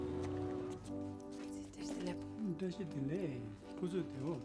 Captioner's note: conversing In Tibetan